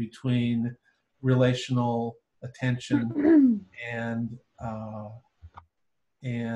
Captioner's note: woman clearing throat